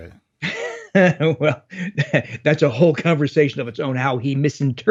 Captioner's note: laughs